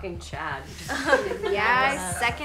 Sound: girls laughing

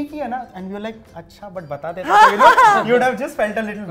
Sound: chuckles

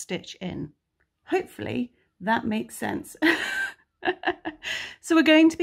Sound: laughs

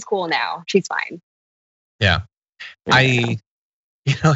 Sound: laugh

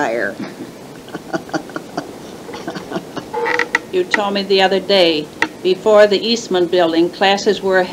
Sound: laughs

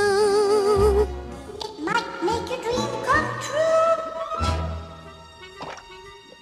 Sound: echoes

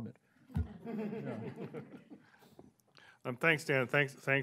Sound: laughing

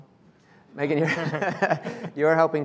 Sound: laughing

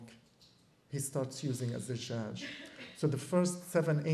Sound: non-english

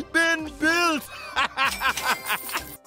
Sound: laughing

